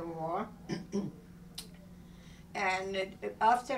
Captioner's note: clearing throat